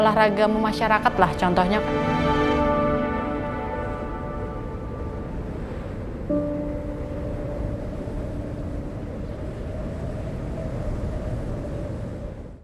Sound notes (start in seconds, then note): 2.4 music intensifies and fades; 6.2 wind blowing